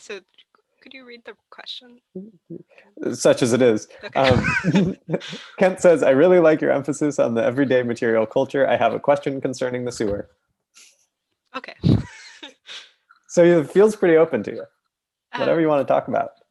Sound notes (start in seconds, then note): 4.1 laughter